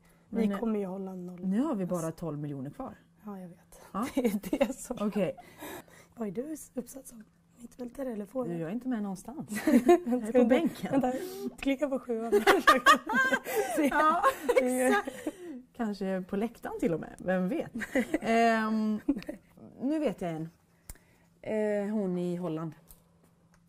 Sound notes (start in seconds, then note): 4.7 laughs; 9.6 both laugh; 12.4 Olivia laughs her ass off; 18.7 Magda laughs